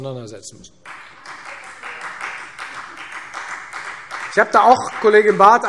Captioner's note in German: Beifall Freie Demokraten